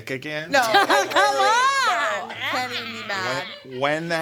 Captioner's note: hollering